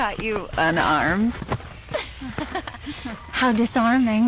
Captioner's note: laugh